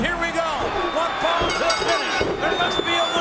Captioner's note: bell rings